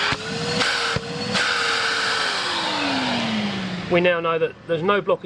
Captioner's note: vacuum cleaner buzzes